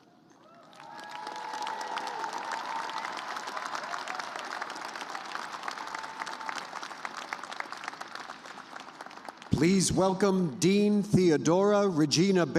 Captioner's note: cheers and applause